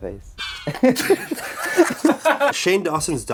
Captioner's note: both starts laughing